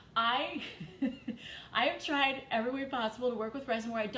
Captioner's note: chuckles